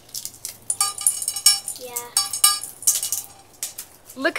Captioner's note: beans clinking in bowl